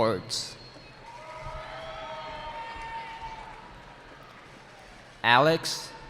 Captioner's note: cheering